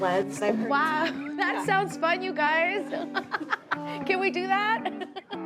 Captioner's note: laughs